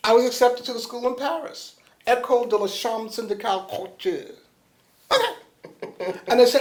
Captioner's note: laughter